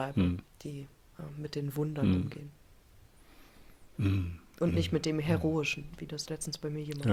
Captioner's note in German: räuspern